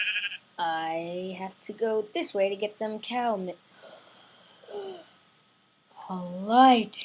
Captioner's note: gasp